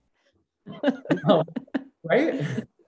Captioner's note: laughing